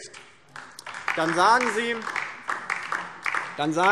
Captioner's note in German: Beifall DIE LINKE